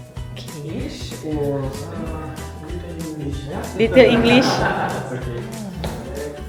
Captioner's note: laugh